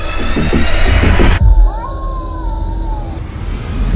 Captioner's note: terrifying screams